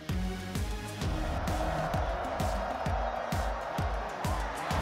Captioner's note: crowd cheering